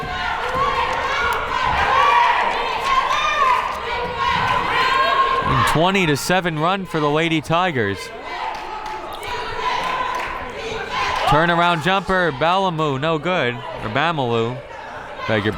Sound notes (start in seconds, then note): 0.3 crowd members shouting; 8.1 crowd members chanting